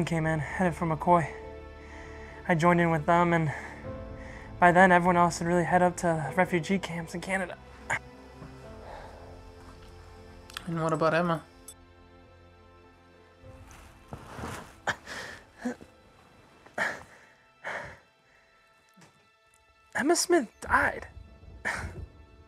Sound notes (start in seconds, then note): 12.3 sad music continues; 16.7 sighs